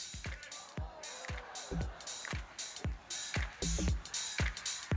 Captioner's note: audience exclaims